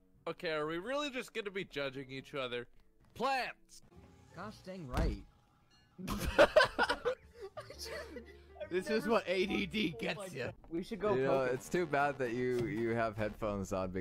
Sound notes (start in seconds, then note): 4.8 thud; 6.0 laughter